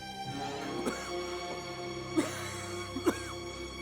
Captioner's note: coughing